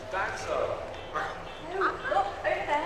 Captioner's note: Ben growling